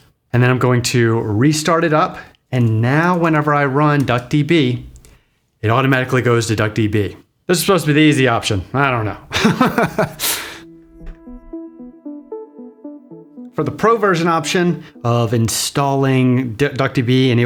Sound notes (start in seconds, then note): 9.3 laughs; 10.6 gentle music